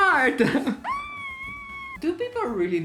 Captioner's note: dolphin noises